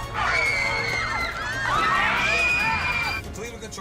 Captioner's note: passengers scream